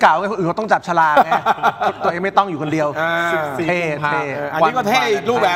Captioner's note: laughs